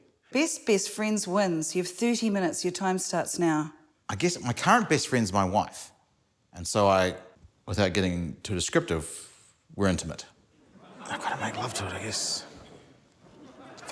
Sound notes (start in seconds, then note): 10.6 laughter